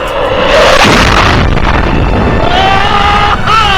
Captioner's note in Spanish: estruendo de avión